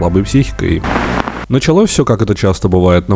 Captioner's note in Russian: помеха